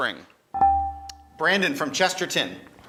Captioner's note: buzzer chimes